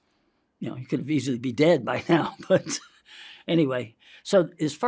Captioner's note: chuckles